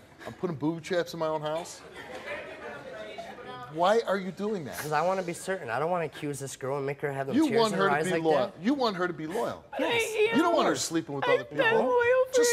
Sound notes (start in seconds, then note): 1.8 audience laughs